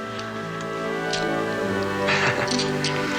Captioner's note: laughs